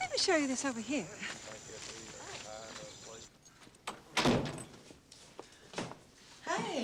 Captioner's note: people chattering in distance